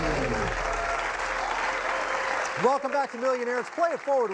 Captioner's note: dramatic music; cheers and applause